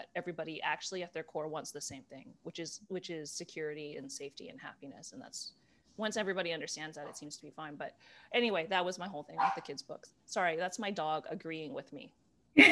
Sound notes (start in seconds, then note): 9.4 barking